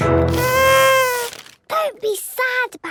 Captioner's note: horn blowing